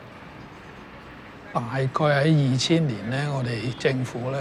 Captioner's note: Cantonese